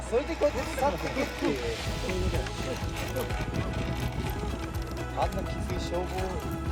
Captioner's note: laughs